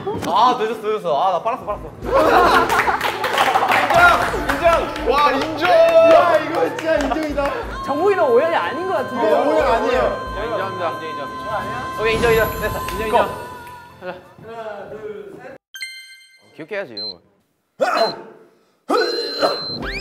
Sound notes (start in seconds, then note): 6.3 he's almost sobbing too